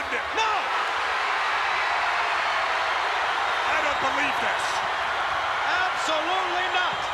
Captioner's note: applause